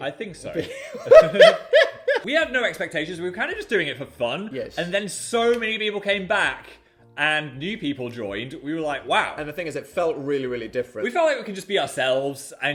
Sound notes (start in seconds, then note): 0.6 both laughing